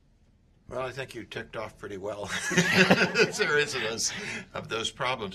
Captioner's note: laughter